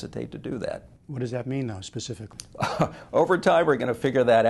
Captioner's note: chuckles